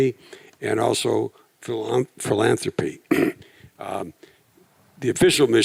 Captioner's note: clears throat